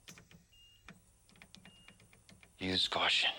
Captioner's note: machines beeping